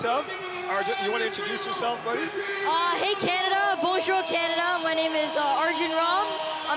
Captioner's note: shouting